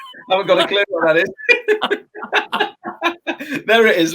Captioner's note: both laughs